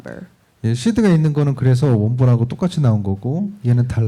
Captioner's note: speaking korean